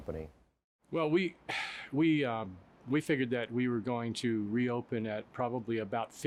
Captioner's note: sighs